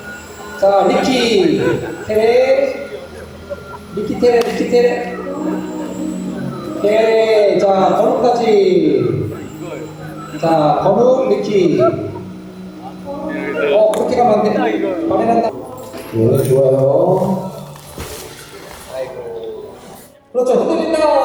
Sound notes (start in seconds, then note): 11.5 laughing to death